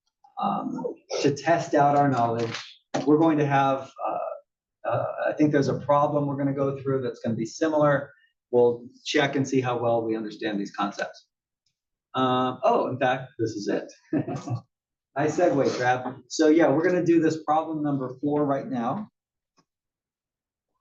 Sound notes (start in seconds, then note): 14.1 laugh